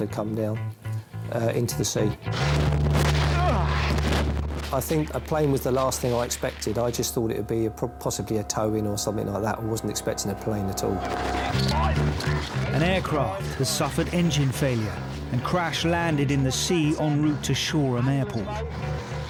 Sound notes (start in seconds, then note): 3.4 grunts; 11.8 crew chattering